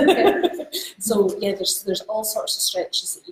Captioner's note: laughs